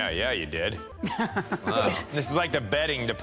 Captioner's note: laughs